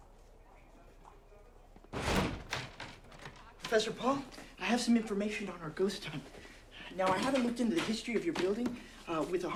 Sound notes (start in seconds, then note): 1.9 door thuds